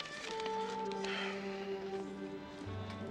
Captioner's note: Menghela napas